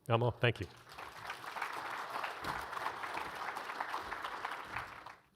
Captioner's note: audience applauds